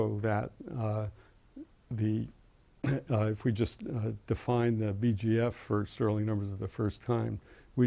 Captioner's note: cough